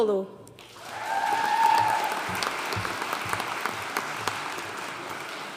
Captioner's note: audience cheering and applauding